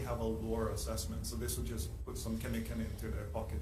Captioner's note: speaking foreign language